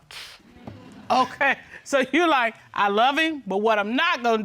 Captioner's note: chuckles